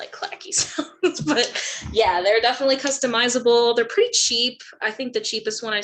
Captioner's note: laugh